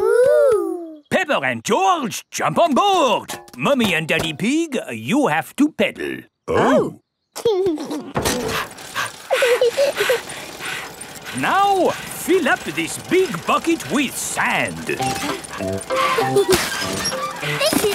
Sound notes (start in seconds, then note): 7.7 chuckles; 8.2 daddy pig panting; 9.6 mummy pig panting; 9.6 peppa chuckles; 15.8 mummy and daddy pig panting; 15.8 peppa and george laughing